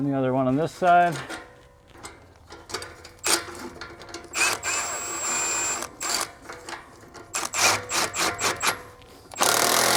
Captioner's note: drilling